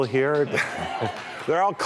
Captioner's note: cheering